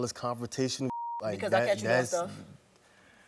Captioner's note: beeping